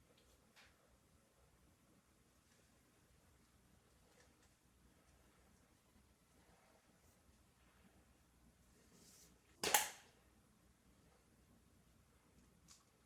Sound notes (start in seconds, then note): 9.6 cap clicks